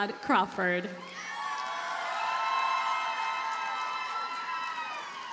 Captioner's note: audience cheers and applauds